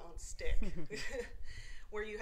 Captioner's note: laugh